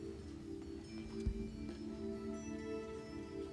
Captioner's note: whispering